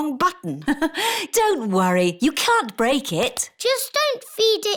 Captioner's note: laughs